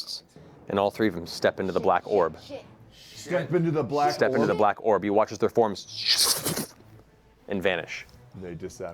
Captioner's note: whooshing noises